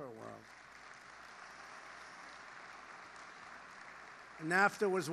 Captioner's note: applause